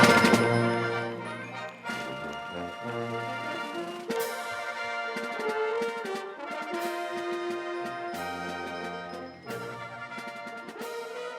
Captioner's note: cheers and Applause